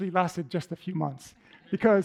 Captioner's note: laughter